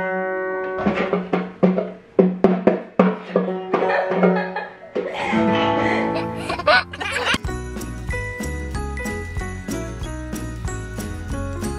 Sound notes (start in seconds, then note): 4.5 quiet giggles; 6.1 baby giggles; 8.1 cheerful music